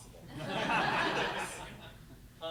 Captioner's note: laughter